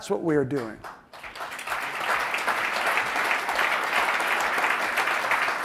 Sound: audience applauding

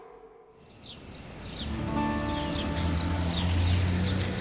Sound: birds chirping

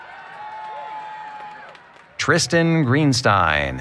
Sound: cheering

